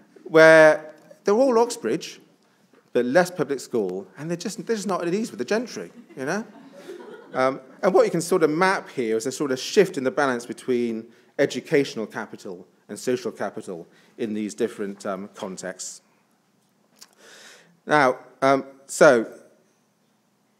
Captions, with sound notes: Where they're all Oxbridge but less public school and they're just not at ease with the gentry, you know, (attendees laughs) and what you can sort of map here is a sort of shift in the balance between educational capital and social capital in these different contexts.